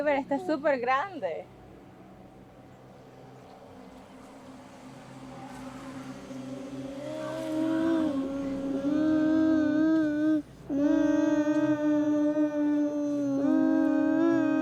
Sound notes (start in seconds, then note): 7.7 boys hum